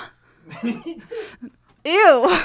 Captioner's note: giggling